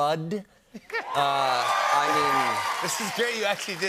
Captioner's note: cheers and applause